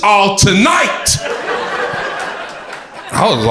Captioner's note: crowd laughter